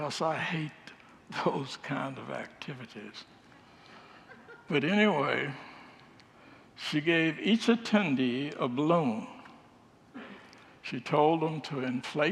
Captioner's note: congregants laugh